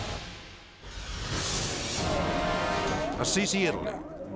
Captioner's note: dramatic whoosh